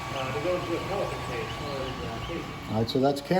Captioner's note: machine drown him out